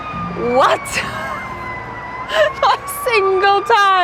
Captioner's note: guffaws